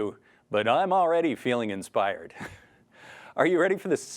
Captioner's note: chuckles